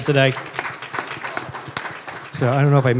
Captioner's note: applause